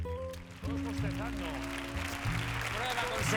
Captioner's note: applause